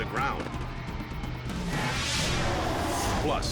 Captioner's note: air whooshes